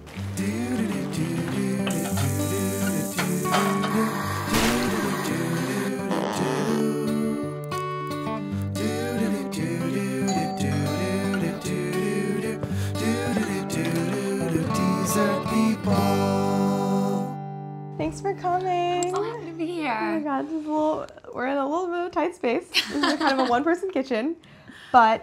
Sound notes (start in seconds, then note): 0.1 relaxing acoustic music; 4.2 mixer whirring; 10.2 door bell; 12.5 foot steps; 13.9 door opening